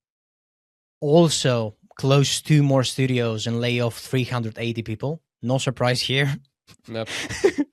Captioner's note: laughs